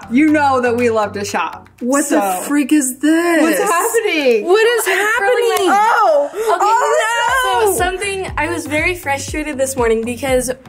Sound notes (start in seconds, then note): 2.1 upbeat music stops; 6.0 gasps